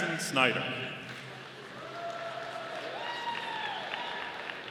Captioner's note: audience applauding